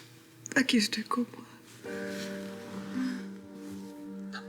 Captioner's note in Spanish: Sollozos